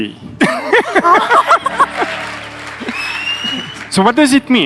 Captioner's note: audience laughing and cheering